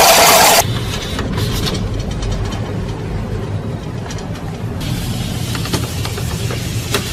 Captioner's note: roller shutter